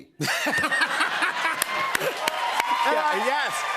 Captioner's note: laughter